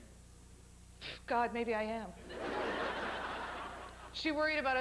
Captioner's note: spits